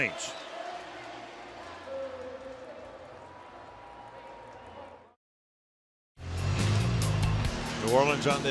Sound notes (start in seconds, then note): 0.7 pa announcement; 6.3 upbeat music